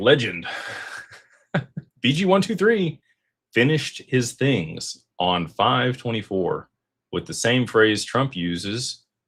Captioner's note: laughter